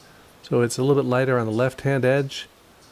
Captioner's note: none